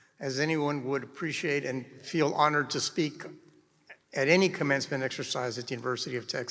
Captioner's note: none